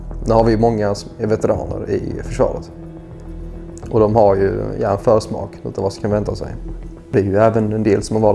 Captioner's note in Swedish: Swedish